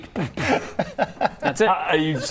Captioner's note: supportive laughter from a good friend